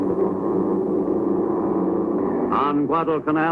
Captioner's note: airplane engine roaring